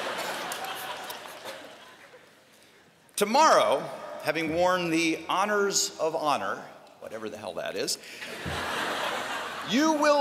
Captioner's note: laughter